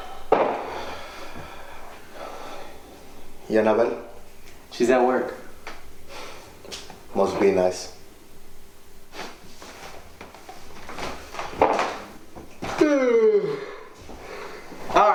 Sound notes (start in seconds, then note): 9.2 Manny chuckling; 12.8 Ramon yawning